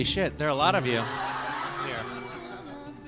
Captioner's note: laughs